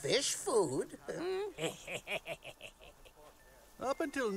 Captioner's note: he sniggers